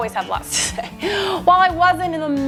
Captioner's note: laughs